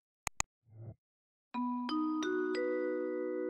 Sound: chime

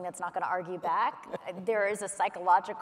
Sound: laughs

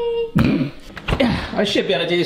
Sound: snorting

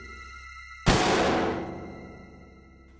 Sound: gun firing; ominous music

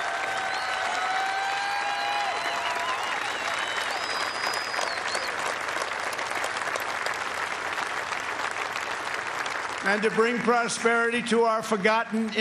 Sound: cheers and applause

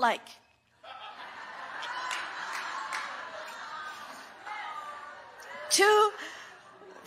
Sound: congregation laughing

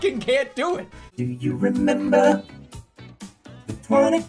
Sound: autotuned

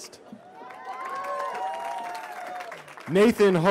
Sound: cheering

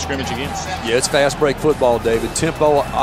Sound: voiceover

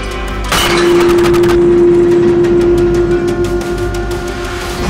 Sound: metal clanking

